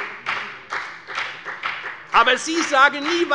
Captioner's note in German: Beifall bei der FDP